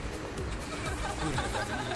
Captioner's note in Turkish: Gülüşmeler